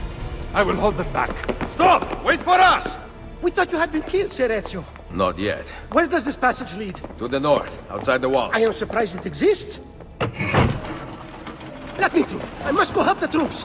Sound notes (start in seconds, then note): 10.0 mechanism moving